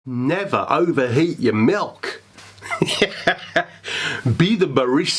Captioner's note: laughs